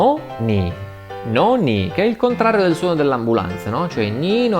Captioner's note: Italian